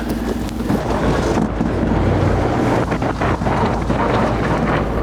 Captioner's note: engine accelerating